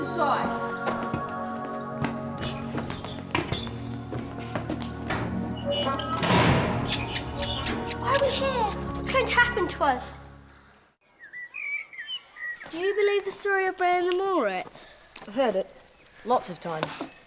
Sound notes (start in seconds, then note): 6.8 rats squeaking